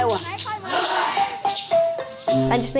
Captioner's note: in unison, shouts back